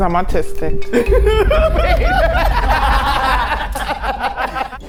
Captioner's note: all laughing